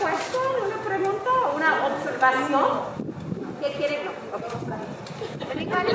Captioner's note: speaking in foreign language